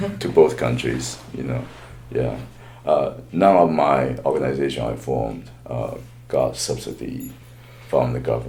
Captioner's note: laughs